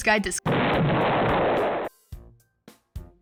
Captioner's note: explosion